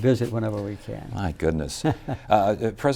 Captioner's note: laughs